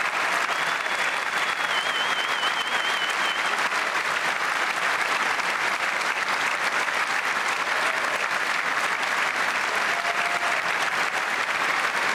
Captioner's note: cheers and applause